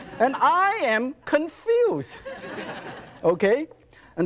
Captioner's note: audience laughs; audience laughs